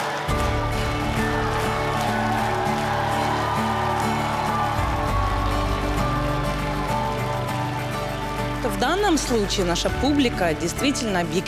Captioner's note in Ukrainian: оплески